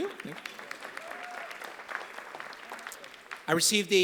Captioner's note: applause